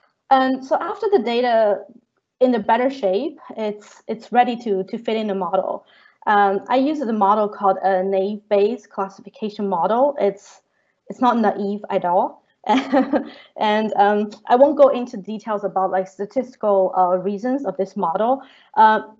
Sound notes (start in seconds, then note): 12.7 chuckling